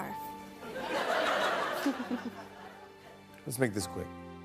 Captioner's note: laughter; chuckles